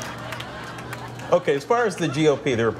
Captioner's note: laughter